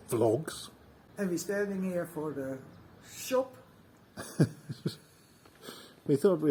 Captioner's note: laughs